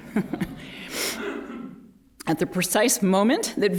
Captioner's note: laughter